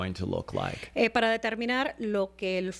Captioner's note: Hablando ingl\s